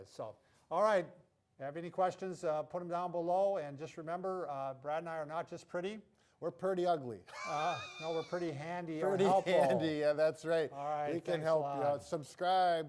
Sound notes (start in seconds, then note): 7.3 laughs